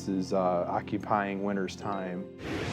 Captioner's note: none